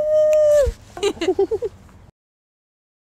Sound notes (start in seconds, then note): 1.0 all giggling